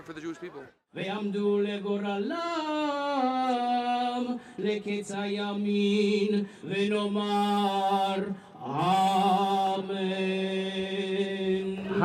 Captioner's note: chanting